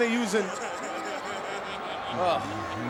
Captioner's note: Brother Love laughing